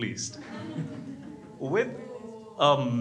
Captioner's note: crowd laughs